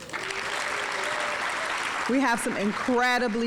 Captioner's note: audience applauding